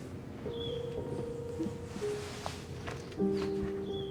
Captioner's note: soft piano music; birds chirping